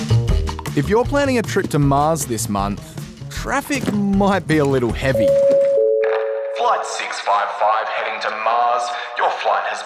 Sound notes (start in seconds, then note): 5.0 chiming over tannoy; 7.5 over tannoy